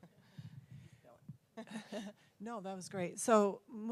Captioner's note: laugh